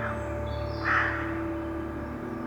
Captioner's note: crow calling